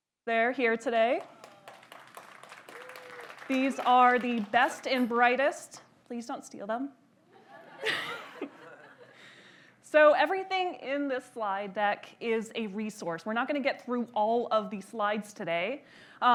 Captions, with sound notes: They're here today. (audience applauds) These are the best and brightest, please don't steal them. (audience laughs) So everything in this slide deck is a resource. We're not gonna get through all of these slides today,